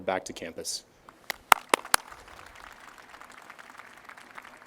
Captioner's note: audience applauds